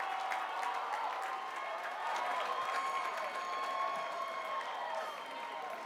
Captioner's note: cheers and applause